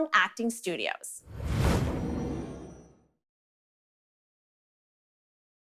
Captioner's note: transition sound